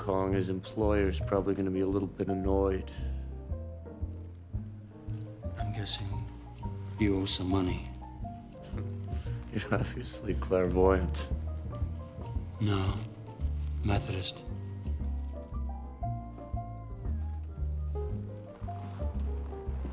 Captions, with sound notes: his employer is probably gonna be a little bit annoyed. I'm guessing you owe some money. (CHUCKLES SARCASTICALLY) You're obviously clairvoyant. No, Methodist.